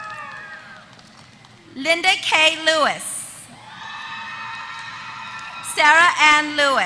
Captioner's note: applause